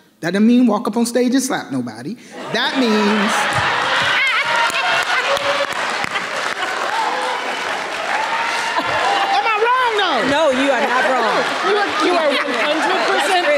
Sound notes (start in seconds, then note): 2.4 everyone laughing; 2.9 audience cheering